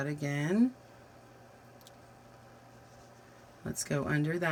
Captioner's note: silence